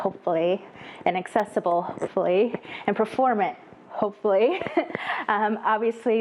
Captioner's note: laugh